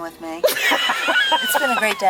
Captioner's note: laughing